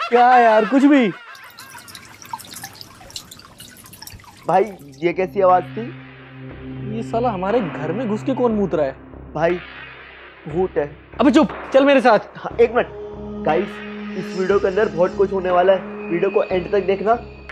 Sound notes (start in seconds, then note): 0.3 leakage of water; 5.7 scary music